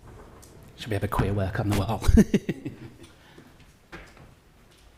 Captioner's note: laughs